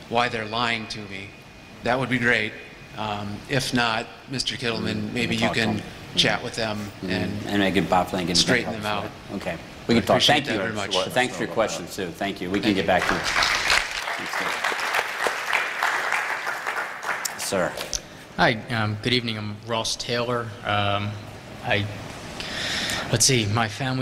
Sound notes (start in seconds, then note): 12.9 applause